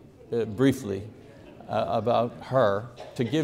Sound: congregation murmurs

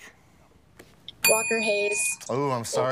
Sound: bell dings

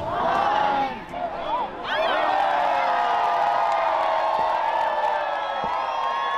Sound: crowd; crowd cheering; firecrackers blasting

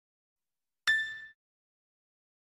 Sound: ding

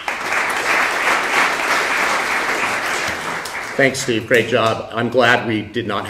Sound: applause

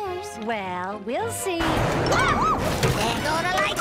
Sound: thunder

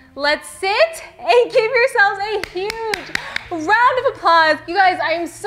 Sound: clapping

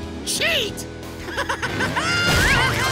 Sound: laughing

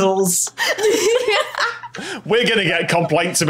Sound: laughing

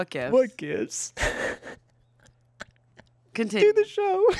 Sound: laughs

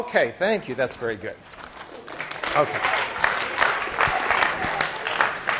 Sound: class applauding

